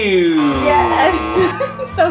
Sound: buzzer buzzing

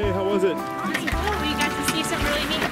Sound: voiceover

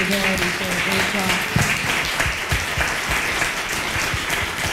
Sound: applause

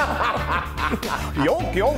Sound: laugh

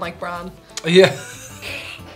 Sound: laugh

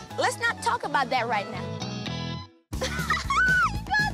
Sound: chuckles

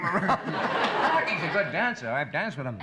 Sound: laughter

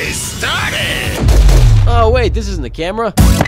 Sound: gunshots fired

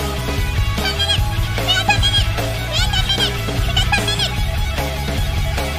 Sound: cute gremlin noises

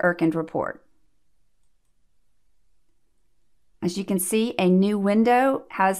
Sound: click

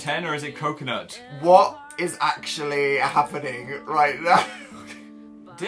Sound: laughter

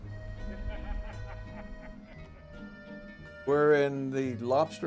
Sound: spooky accordion music; man laughing

